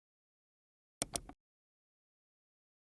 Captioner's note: mouse clicks